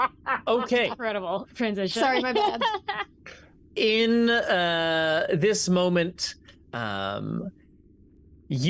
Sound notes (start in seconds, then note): 2.0 laughs